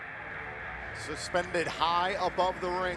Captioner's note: crowd cheering